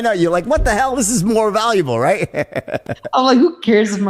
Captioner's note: host chuckling